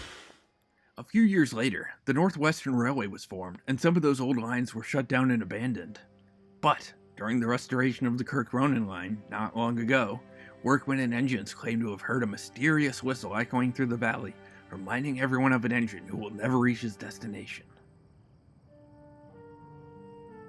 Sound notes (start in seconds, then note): none